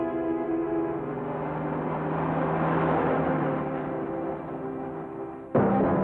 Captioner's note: ominous music; car rumbles; dramatic music